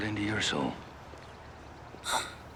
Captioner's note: gasps